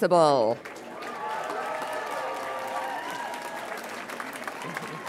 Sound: all applaud and cheer

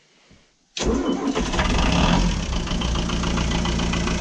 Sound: engine cranks and then starts up

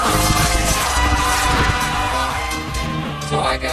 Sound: all screaming

